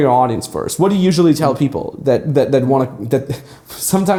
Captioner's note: chuckles